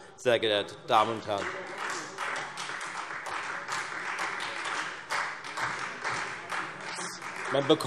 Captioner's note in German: Beifall Freie Demokraten - Zurufe BÜNDNIS 90/DIE GRÜNEN